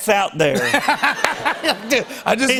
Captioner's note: laughter